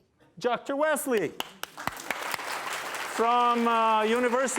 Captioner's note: applause